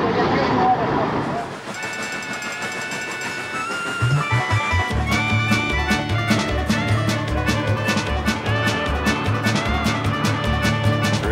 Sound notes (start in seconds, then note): 5.3 train chugging; 7.9 jaunty country music